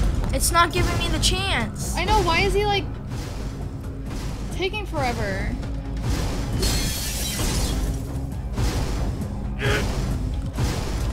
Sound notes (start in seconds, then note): 6.6 swoosh; 8.8 thump